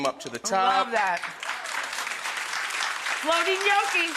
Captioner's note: audience claps